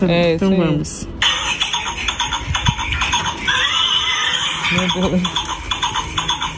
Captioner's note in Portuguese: cavalo relinchando